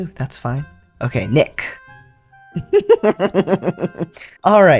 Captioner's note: laughter